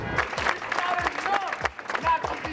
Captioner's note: clapping